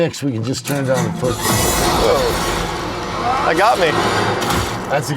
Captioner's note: loud video game sound